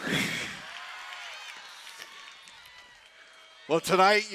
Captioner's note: cheering